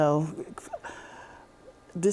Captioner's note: chuckling